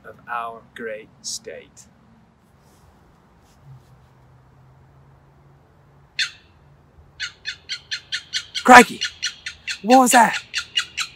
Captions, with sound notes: of our great state. (birds chirping) Crikey! What was that?